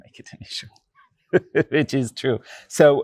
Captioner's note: chuckles